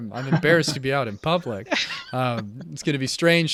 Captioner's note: laughing